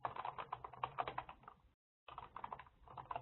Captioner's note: typing